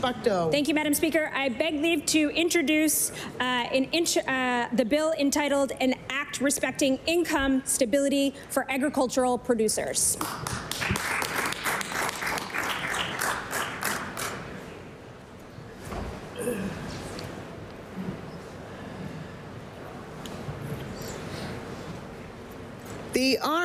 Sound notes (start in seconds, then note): 13.0 applause